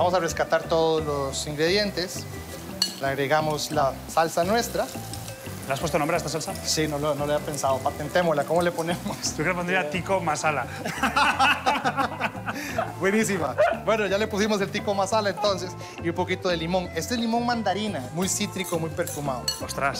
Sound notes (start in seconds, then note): 10.7 laughing